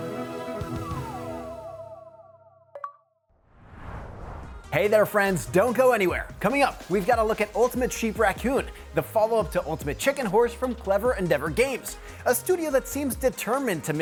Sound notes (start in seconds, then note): 2.4 tone chiming